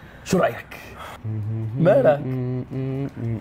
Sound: humming

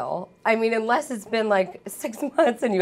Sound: laughing

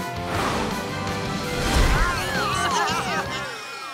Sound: baaing

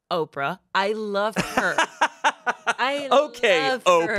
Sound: laughs

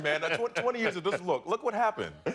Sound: laughter

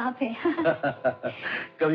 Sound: laughing

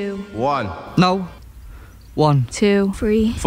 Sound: the echo & dream soundscape stop

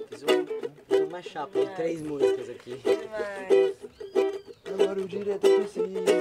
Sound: speaking in foreign language

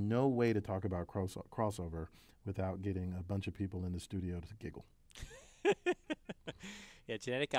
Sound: laugh

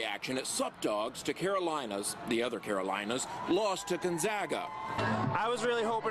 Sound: cheering

